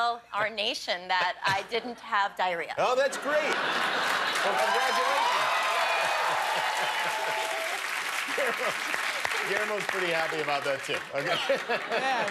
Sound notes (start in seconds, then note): 0.3 laughter; 4.0 cheers and applause